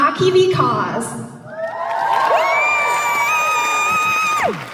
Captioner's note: audience Applause